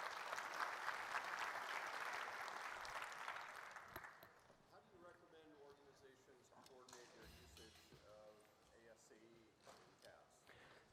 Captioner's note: applause